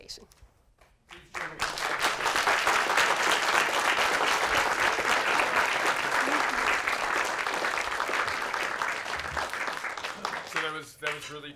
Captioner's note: applause